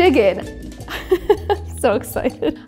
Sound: chuckles

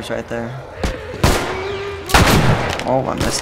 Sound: runner moans; gun blast; gunfire

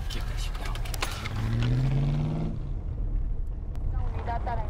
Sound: engine Raving; police Radio

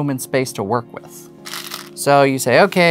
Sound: new song begins; stones rattling

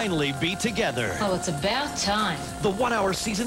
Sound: observer, sarcastically

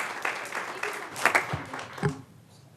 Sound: applause

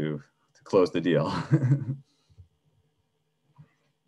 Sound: laughs

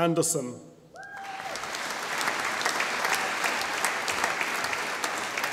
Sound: audience applauding

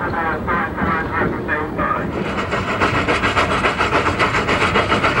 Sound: muffled radio announcement

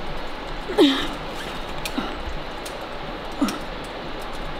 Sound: groans

